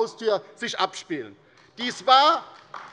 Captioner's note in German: Beifall bei der LINKEN